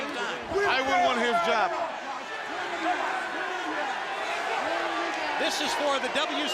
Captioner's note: crowd chatter